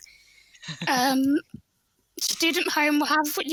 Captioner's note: chuckles